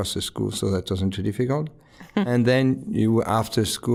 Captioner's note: chuckling